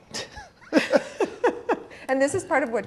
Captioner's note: laughing